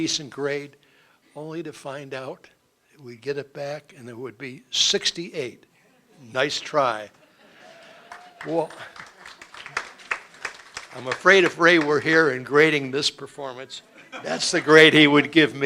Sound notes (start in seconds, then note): 7.0 laughter; 7.7 applause